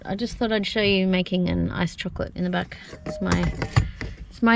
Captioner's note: containers thunk